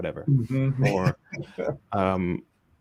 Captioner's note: both laughing